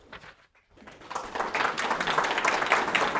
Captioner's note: applause